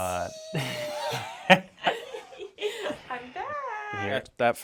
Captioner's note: laughs